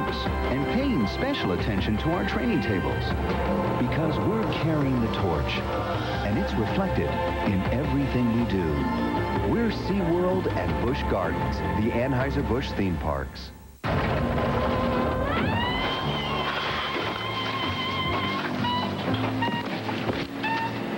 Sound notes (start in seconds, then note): 13.8 clatter